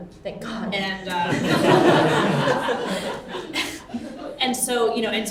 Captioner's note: everyone laughs